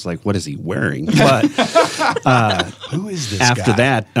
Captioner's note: laugh